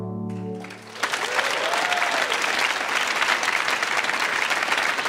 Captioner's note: audience applauds